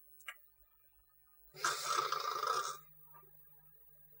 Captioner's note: snores